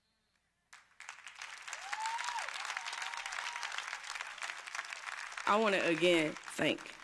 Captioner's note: crowd cheers